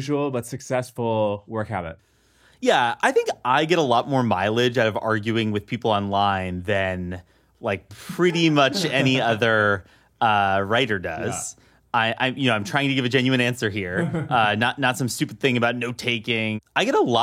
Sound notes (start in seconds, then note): 10.9 laughs